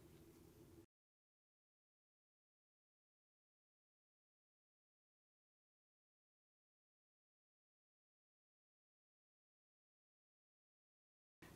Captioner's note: no Sound Present